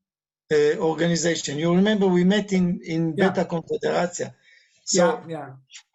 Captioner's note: speaking in Hebrew